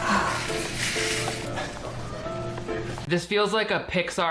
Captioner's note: Henry chuckles; Emily sighs; cart rattles